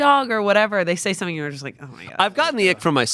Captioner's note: none